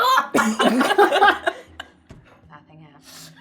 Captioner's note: laughing